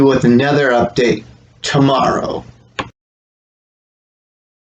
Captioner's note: click